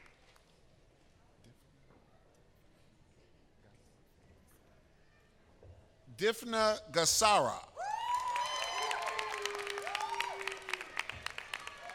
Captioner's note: applause